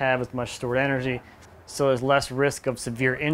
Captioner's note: background talking